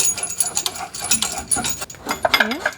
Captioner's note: clicking